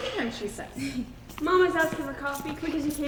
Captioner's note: footsteps entering with keys jingling